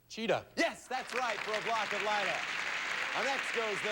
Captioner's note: audience applauding